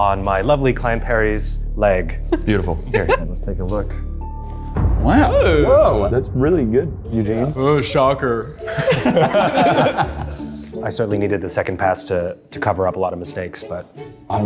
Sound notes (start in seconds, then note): 5.2 exclaim; 8.6 laughing